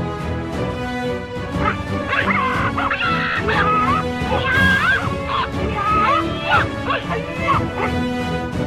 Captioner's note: annoying sounds from PC